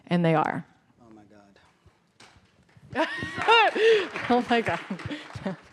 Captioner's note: applause